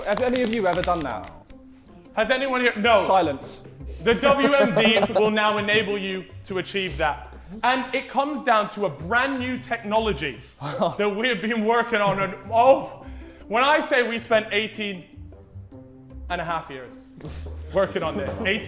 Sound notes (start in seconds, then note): 4.0 Sidemen laughing